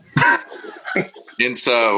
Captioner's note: laughs